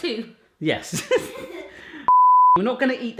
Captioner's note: laughs